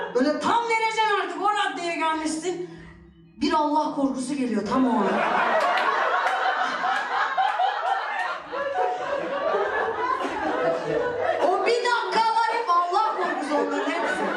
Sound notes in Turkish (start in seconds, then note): 5.0 Gülüşmeler